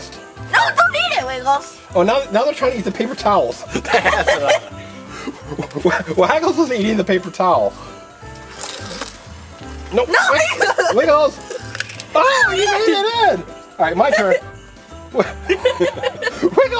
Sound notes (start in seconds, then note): 3.6 both laugh; 10.3 assistant laughing; 15.1 both laughing